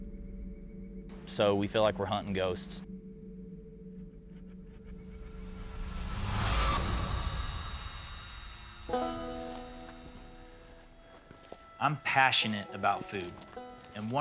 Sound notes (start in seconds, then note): 5.0 air whooshes; 8.8 banjo music